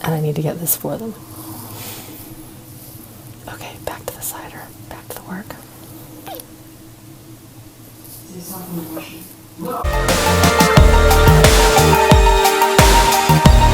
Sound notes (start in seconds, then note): 5.9 squeak; 9.8 steady instrumental music